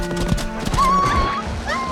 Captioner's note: whimpering